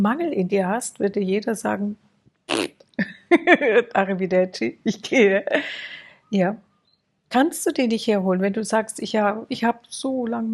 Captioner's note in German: gelächter